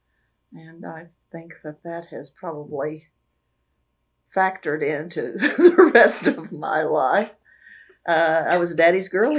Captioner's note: laughs